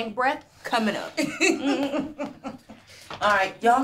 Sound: yolanda laughs

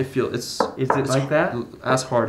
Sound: knuckles knocking

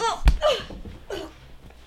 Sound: crack

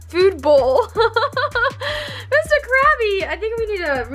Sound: laughs

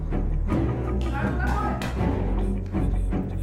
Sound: Malay Language

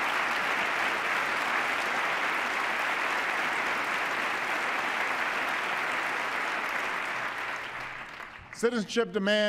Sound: applause

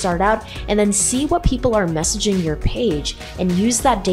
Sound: heart beating rhythmically

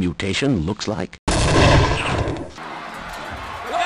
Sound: explosion

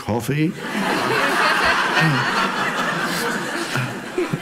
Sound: audience laughs

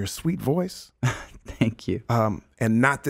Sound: chuckles

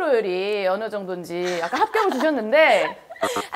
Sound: giggling

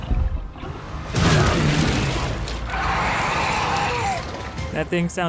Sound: wood crashing; Demogorgon screeching

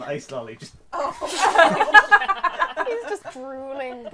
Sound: laughter

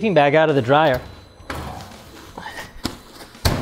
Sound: dryer bangs open

